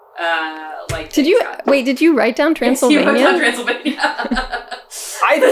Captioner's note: laughs